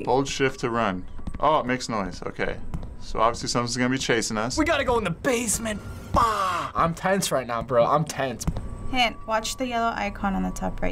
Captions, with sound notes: - "Hold Shift to run." Oh, it makes noise. Okay. So obviously something's gonna be chasing us. - (sulkily) We gotta go in the basement. Fuh! - I'm tense right now, bro. I'm tense. - "Hint: watch the yellow icon on the top right